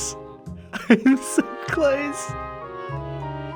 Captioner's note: whispers; nervous chuckle